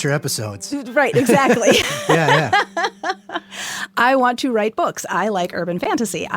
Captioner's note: laughs